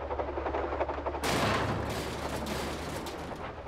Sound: metal Clanging

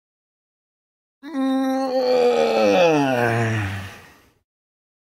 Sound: sound of yawning

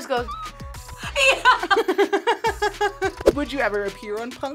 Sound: laughs

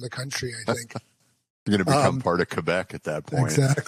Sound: laughs

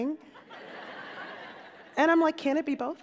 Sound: laughter

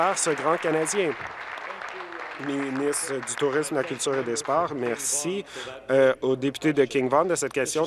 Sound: applause

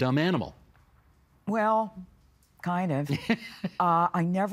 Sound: laughing

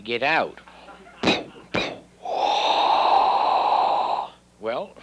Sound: blowing and exhaling

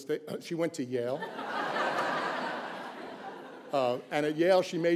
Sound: laughter

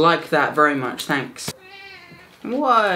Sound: cat mewing

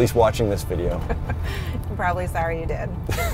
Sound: chuckles; laughs

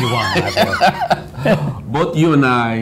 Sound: laughs

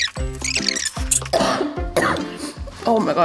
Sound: cough cough

